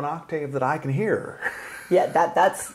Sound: laughing

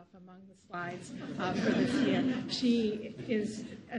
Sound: crowd laughing

